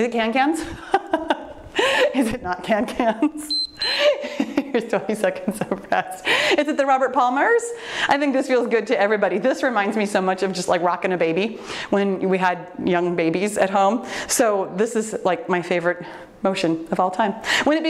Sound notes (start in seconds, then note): 1.0 laughs; 3.4 timer beeps